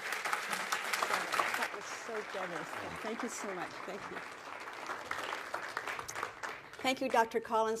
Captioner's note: applause